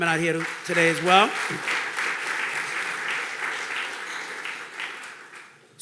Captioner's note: audience clapping